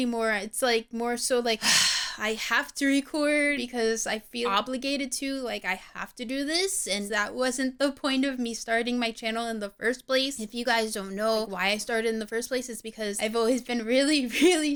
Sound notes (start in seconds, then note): 1.6 sigh